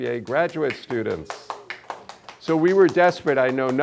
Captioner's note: applause